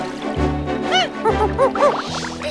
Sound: monkey sounds

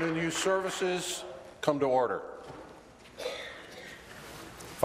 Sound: applause

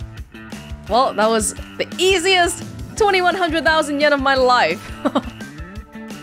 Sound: chuckles

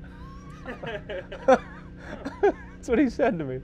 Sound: men laughing

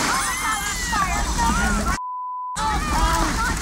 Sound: everyone screams; beep

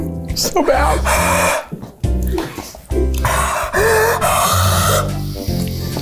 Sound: laughs again; exhales and gags

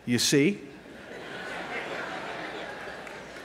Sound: laughter

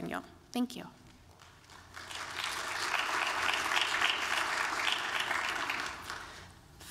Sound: applause

